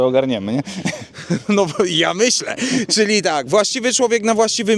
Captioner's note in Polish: śmiech